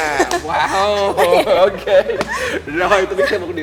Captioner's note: laugh